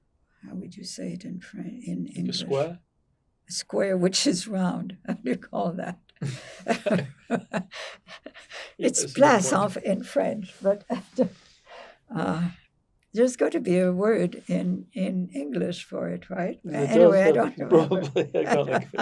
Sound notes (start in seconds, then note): 6.2 laughing; 8.8 french